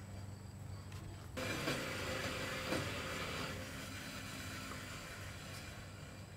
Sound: metal cutter machine running

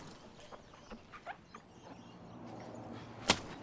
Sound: birds chirp; sponge squeaks; rag slaps

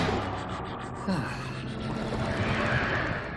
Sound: sighing

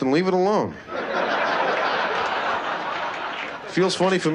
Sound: laughter

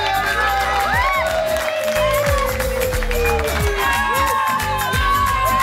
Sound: cheers and applause

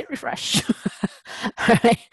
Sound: laugh

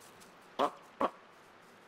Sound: honk honk

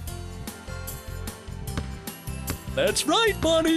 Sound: ball bounces

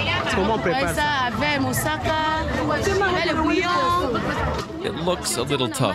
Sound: woman speaking foriegn language

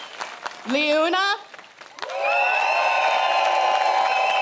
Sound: crowd cheers

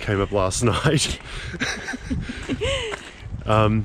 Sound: laughing

